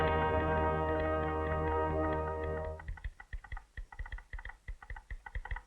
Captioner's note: telegraph clicking